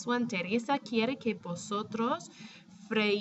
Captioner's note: speaking spanish